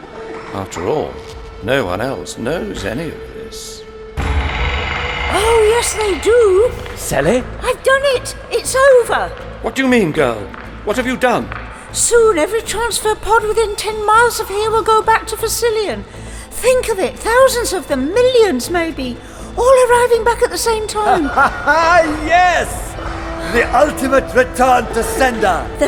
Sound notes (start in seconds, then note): 4.1 doors burst open